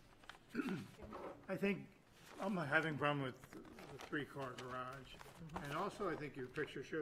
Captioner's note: clears throat